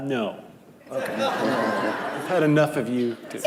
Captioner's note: laughing